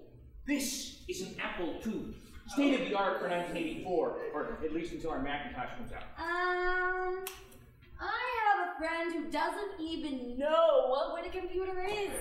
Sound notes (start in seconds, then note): none